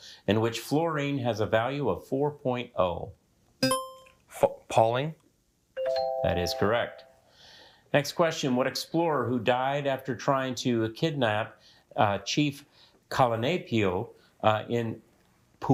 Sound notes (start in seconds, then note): 3.6 buzzer beeps; 5.8 bell dings